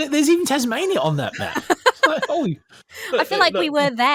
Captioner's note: laughs